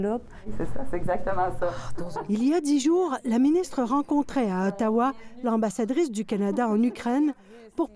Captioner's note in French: rires